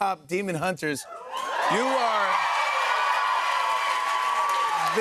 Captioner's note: cheers and applause